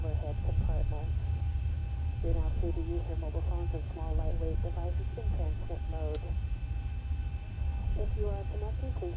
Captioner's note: flight attendants making announcements